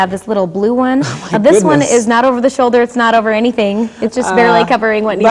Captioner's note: laughing